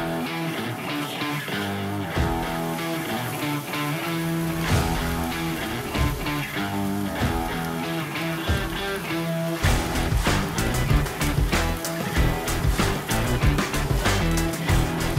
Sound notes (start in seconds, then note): 0.1 rock music; 7.0 sizzling